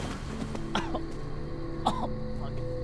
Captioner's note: coughing